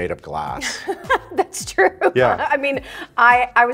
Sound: laughing

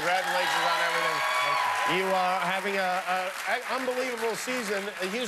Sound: cheers and applause

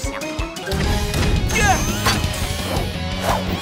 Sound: grunting

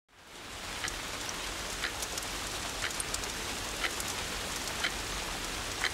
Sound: rain spattering; clock ticking

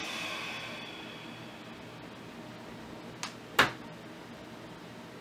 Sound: sighing heavily

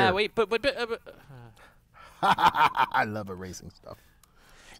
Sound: laugh

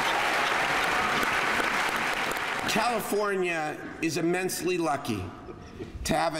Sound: applause

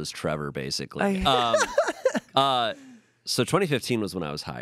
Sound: laughs

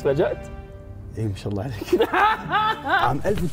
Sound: laughs

